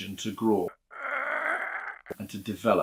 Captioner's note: grunting